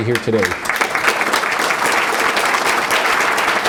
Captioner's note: applause